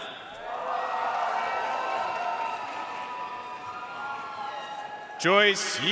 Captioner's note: audience cheering and applauding